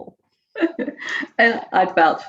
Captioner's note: laughs loudly